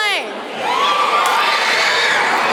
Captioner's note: children cheering